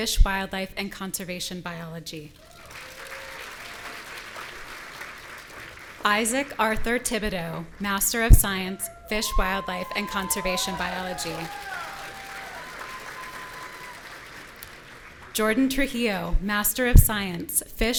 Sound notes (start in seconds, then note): 2.3 audience applauding; 11.6 audience cheering